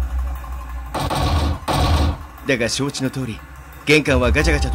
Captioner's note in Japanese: 強引に扉を開こうとする音：ガン！ガン！